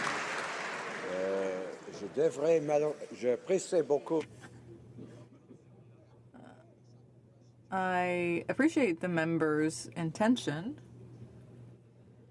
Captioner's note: applause